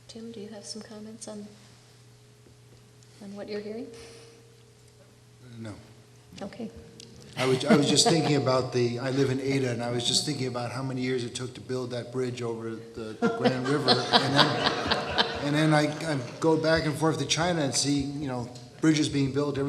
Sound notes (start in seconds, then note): 7.4 audience chuckling; 13.2 audience laughing